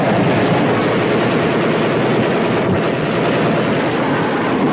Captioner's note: guns firing